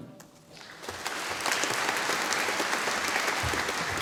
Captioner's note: audience applauding